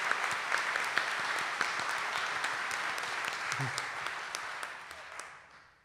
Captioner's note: audience applauding